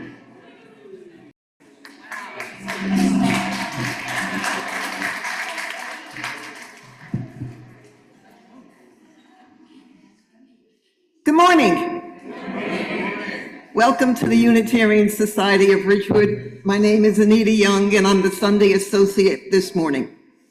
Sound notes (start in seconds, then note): 4.3 applause